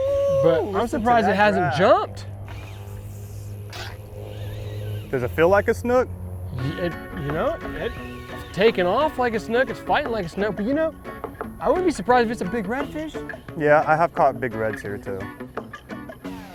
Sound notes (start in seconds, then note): 2.8 line whooshing; 16.3 fun upbeat music